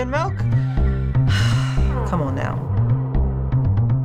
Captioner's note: sighs